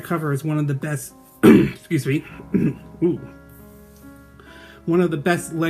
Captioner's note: clearing throat